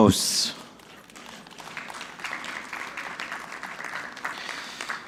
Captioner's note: audience clapping